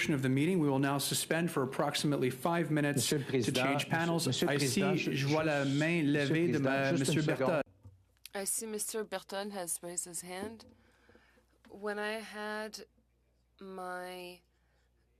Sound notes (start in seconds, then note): 9.2 speaking French